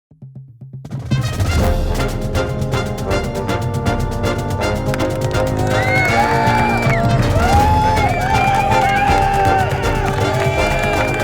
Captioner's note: crowds Cheering; marching Band Music